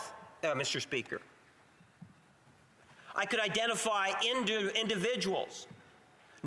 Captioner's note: none